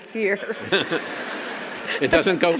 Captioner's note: audience laughs